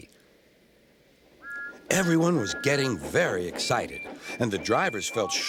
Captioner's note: whistling